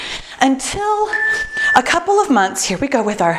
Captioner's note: timer beeps